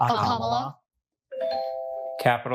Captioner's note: bell dings